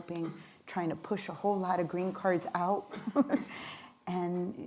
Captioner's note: laughs